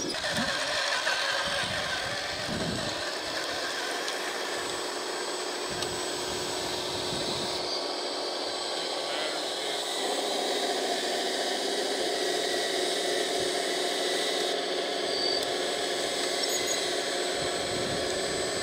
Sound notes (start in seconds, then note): 0.9 bulldozer engine roaring